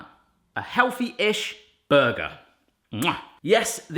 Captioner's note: kiss